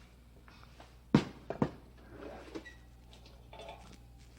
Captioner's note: oven door opens